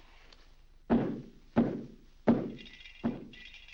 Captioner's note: foot stomping; lights rattling